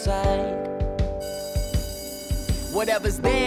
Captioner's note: school bell rings